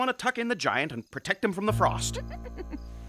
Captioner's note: chuckling